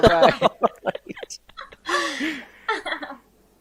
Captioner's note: laughter